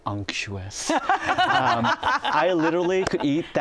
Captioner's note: laughter